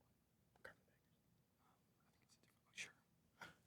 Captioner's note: contestants whisper